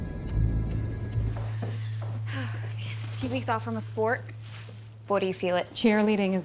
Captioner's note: sighs